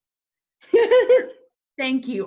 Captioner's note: laughing